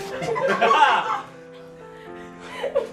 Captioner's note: laughter